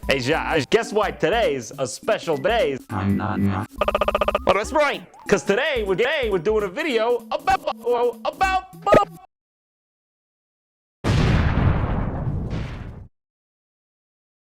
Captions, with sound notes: Hey Jauaj, guess why todays a special dAY. imnanya AAAAAAAA thats right! Cuz today we're gay! we're doing a video aboubo woah about bub! [Explostion]